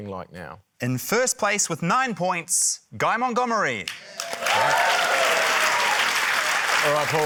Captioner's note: cheering, applause